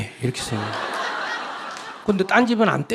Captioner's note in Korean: 청중웃음